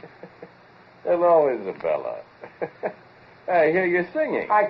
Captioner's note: chuckles